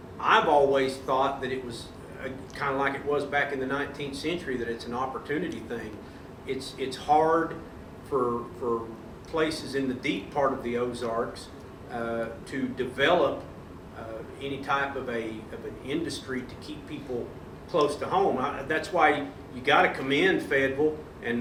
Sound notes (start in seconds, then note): none